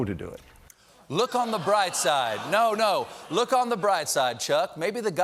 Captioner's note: as alexander